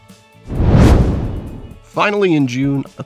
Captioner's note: whoosh